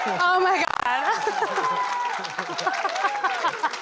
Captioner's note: cheering